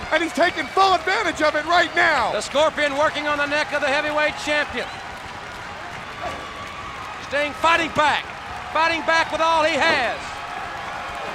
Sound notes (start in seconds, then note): 5.7 crowd cheering